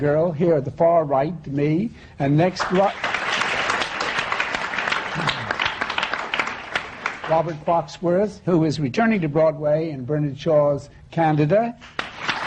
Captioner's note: applause; applause